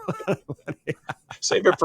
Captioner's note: both laughing